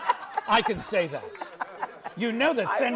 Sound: audience laughs; laughs

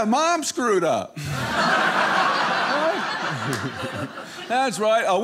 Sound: audience laughing

